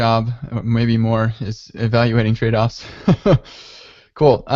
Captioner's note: laughs